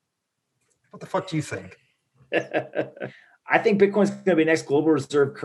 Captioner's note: laughing